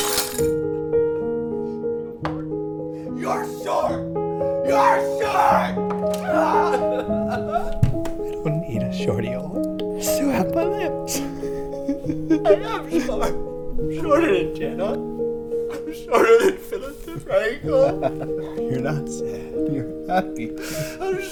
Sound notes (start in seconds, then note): 4.6 screaming; 8.1 voice cracking